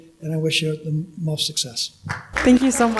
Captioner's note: applause